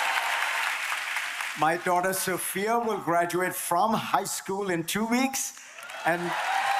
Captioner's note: applause